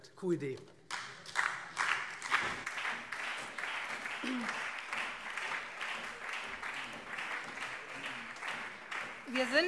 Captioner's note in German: Beifall SPD, CDU und BÜNDNIS 90/DIE GRÜNEN